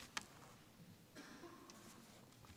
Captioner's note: coughs